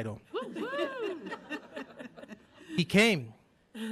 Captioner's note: group laughing